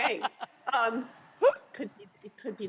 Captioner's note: laughter